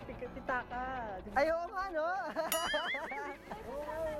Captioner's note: laughs